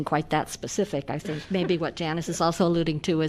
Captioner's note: laughter